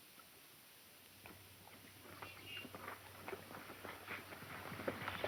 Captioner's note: horses trotting